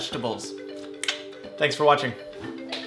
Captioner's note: fingers snapping